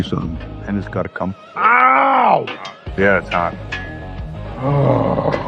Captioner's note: groans